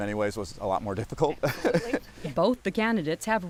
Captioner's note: laughter